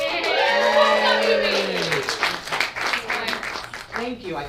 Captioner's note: audience cheers